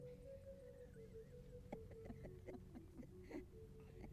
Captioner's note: laughter